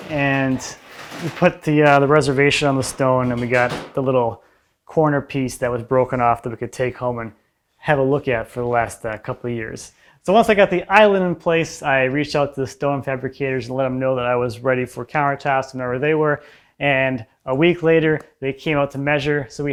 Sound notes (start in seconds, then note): none